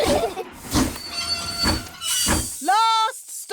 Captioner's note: laugh; train chugs